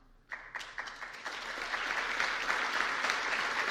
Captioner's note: applause